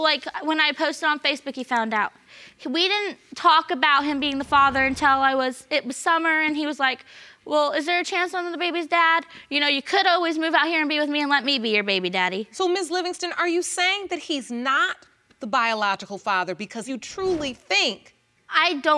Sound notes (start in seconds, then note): none